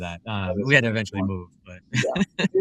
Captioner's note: laugh